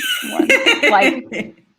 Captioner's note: laugh